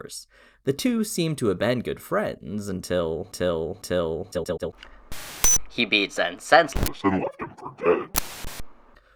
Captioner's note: distortion